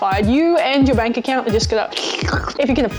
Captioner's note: sucking